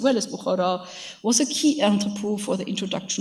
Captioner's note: speaks in a foreign language